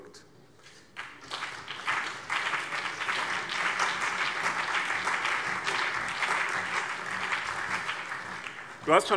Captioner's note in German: Beifall